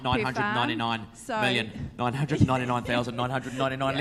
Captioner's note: laughs